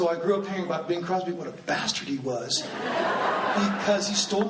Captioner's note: laughing